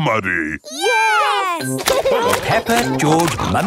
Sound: laughing

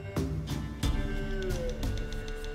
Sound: none

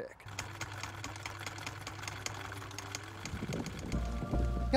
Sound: film reel clicking

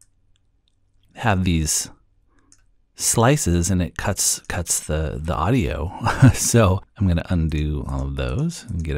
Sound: chuckle

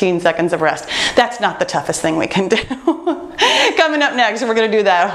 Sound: laughs

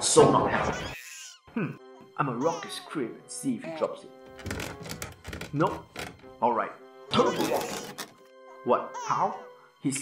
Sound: creaking

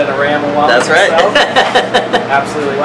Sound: laughter

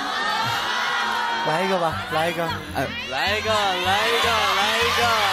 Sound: the crowd begins to hoot

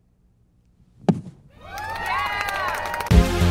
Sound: applause

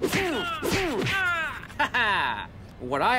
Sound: fighting sounds

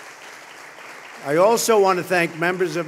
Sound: applause

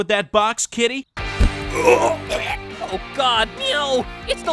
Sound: cat grunting

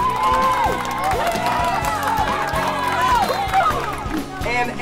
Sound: group Applause and Cheering

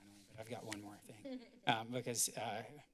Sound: laughter

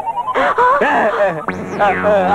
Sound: gasps

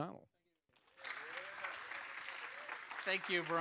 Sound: applause

